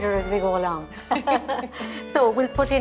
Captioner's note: both laugh